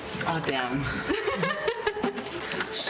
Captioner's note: laughter